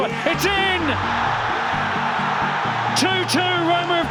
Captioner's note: crowd erupts